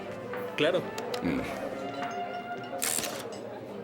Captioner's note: camera shutters